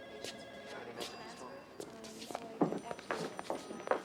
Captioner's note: phone ringing